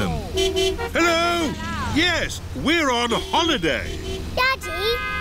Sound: horns honking

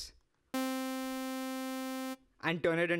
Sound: subtle synthesized buzzing

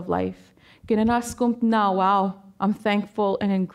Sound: speaking Danezaa

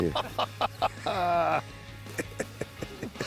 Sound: laughing

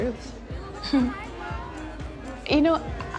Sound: chuckles

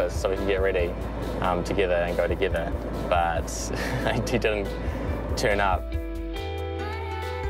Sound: chuckles

